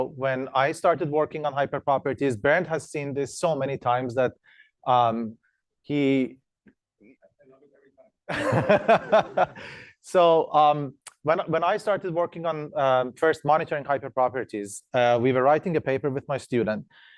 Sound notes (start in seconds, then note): 8.3 laughs